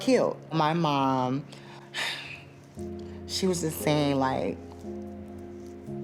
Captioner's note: sighs